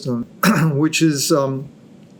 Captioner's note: clears throat